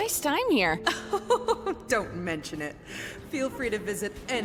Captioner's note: chuckles